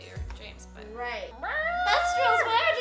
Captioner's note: squawking awkwardly